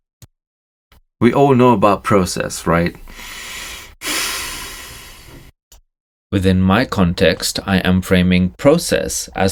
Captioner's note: deep sigh